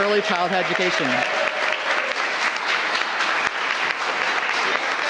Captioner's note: applause